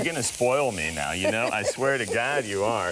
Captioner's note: laughs